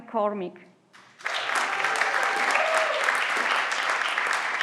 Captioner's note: everyone claps